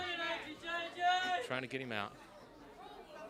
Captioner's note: crowd chatter